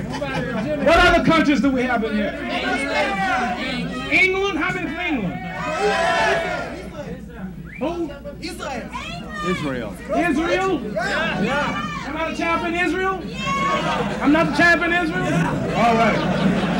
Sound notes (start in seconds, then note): 0.0 crowd laughs; 7.6 crowd cheers